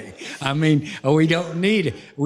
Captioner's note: laughter